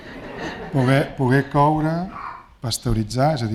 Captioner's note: speaking spanish